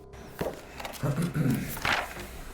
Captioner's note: man clears his throat; papers being flipped through